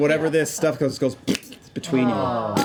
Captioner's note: squishing